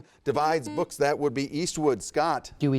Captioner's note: buzzer buzzes